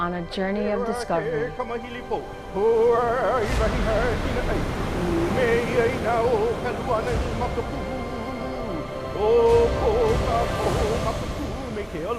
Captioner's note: chanting in Hawaiian